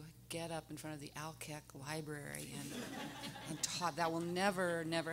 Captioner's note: everyone laughing